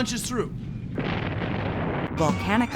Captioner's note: explosion